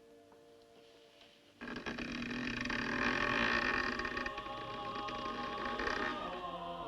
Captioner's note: door creaks open; chanting/singing continues